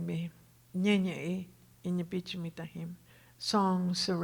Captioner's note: speaking Tohono O'odham